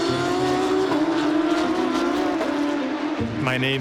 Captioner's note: racecar engines revving